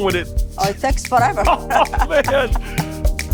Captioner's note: both laugh